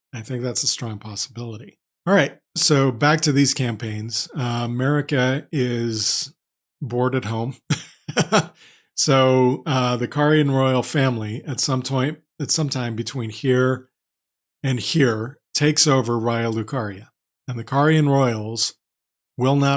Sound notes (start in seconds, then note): 7.8 laughs